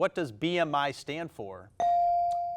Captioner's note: buzzer dinging